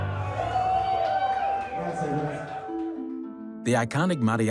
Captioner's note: cheering